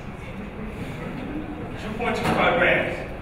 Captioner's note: audience chuckling